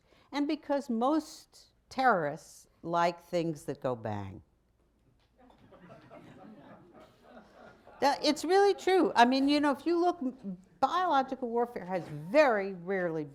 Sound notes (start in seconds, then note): 5.4 laughter